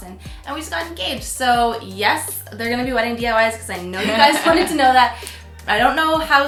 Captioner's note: laughs